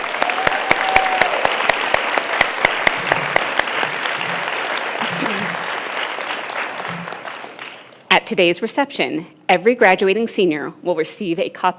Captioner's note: applause